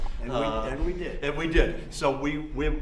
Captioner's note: laughs